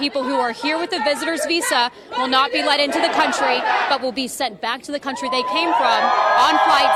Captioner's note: crowd chanting